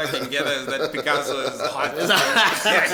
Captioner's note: laughs